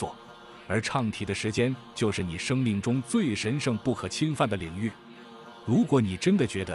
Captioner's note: chanting